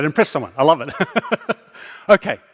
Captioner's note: chuckling